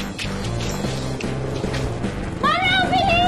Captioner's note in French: motorcycle approaching